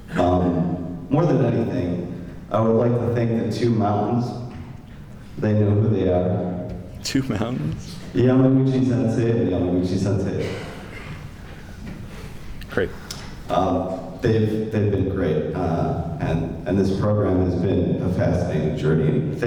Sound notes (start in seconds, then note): 8.1 speaking japanese